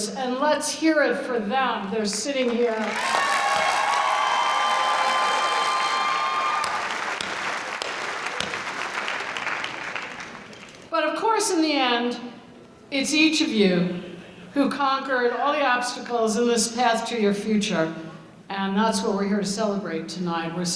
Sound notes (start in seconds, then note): 2.7 audience applauding; 6.4 applause